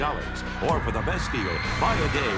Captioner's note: riders screaming excitedly